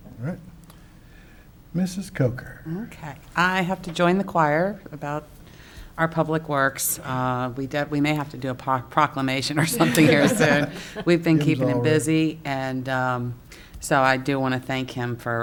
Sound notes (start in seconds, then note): 9.6 council laughs